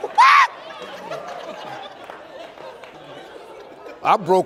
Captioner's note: audience laughs